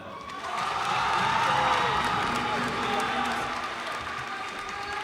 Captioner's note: cheers and applause